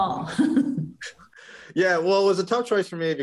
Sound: chuckles

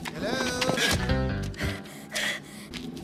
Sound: pants

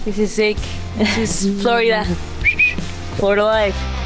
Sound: whistles

